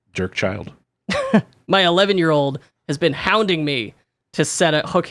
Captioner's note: laughs